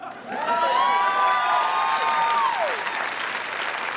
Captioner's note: crowd cheering